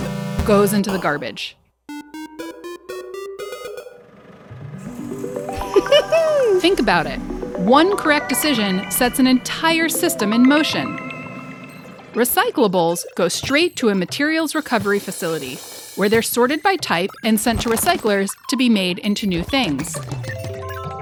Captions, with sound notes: goes into the garbage. [uplifting music] Think about it, one correct decision sets an entire system in motion. [industrial noises] Recyclables go straight to a Materials Recovery Facility. where they're sorted by type and sent to recyclers to be made into new things.